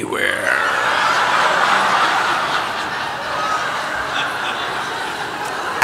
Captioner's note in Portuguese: Gargalhada